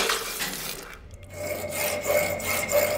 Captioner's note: seething sounds; sawing sounds